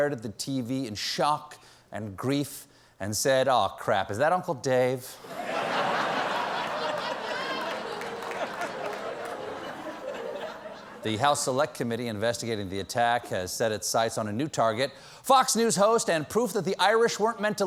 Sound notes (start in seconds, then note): 8.2 laughter